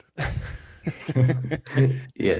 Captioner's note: laughter